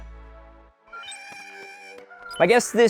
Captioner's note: chattering